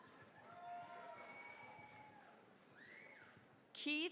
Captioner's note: cheering, applause